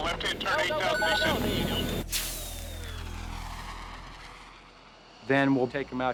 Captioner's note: pilots speaking rapidly